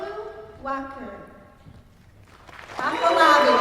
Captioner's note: applause